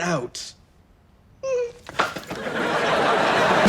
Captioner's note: whimpers; audience laughs